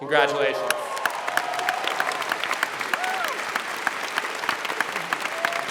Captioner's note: applause